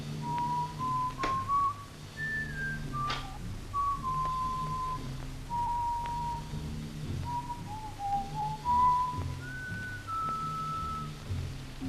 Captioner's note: Chris whistling